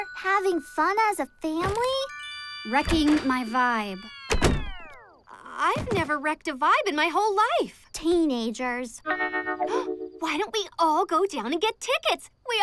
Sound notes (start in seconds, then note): 4.2 door shutting; 9.3 gasping